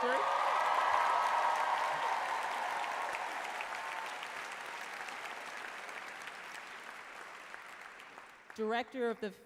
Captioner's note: applause, loud cheers